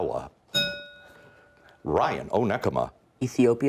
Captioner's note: bell rings